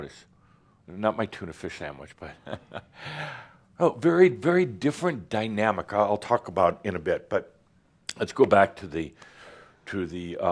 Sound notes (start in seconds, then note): 2.4 chuckles